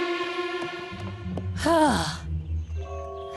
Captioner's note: sighs